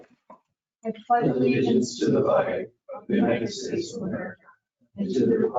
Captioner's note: reciting Pledge of Allegiance